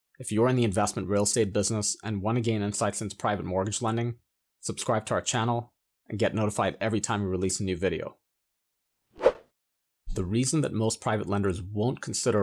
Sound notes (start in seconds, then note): 9.2 air wooshes